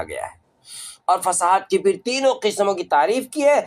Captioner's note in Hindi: नाक से की जाने वाली आवाज़